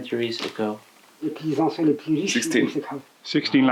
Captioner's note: French